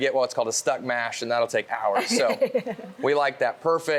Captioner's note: laughing